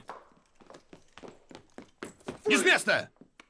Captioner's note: footsteps apoaching